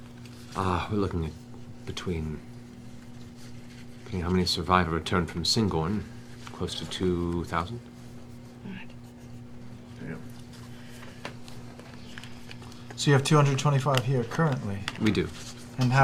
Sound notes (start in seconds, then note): 8.2 quietly